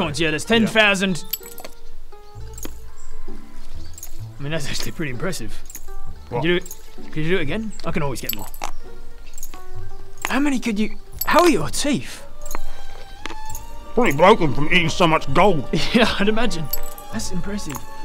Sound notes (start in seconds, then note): 2.5 nom nom nom; 8.6 impressively stupid crunch